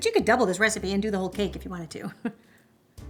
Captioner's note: laughs